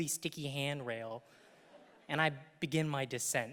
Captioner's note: audience laughing